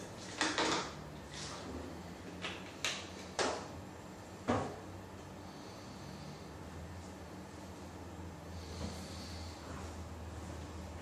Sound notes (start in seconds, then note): none